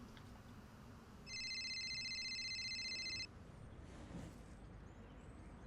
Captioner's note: cellphone ringing